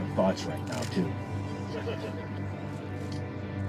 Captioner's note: crowd chuckles